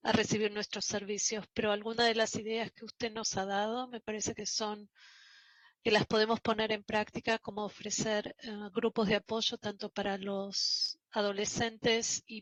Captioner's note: spanish